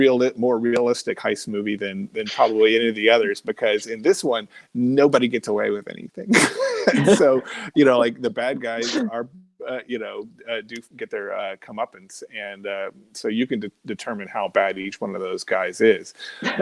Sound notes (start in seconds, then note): 6.2 laughing